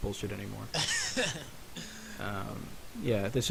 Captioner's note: laughing